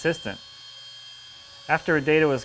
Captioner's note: router hums